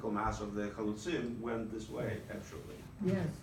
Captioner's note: speaking Hebrew